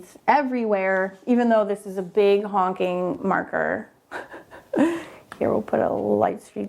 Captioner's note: chuckles